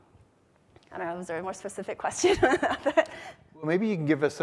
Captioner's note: chuckles